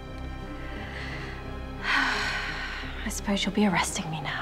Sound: sighs deeply

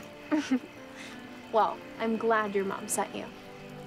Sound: laughs

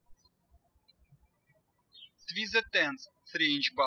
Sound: birds chirping

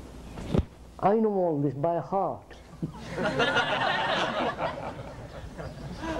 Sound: laughter

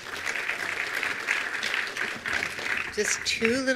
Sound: attendees applauding

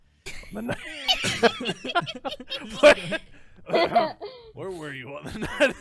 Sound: everyone laughing

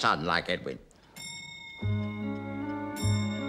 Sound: clock chimes

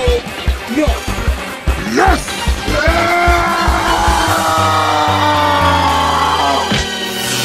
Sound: then Even More Angry Yelling

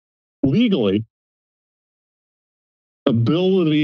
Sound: silence

